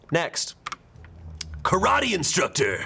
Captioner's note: button clicks